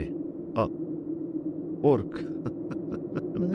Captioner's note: laughter